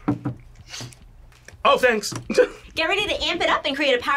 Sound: laughs

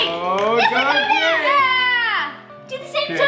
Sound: screaming

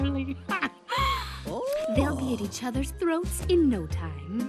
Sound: laughing

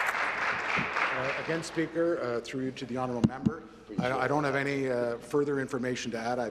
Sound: applause

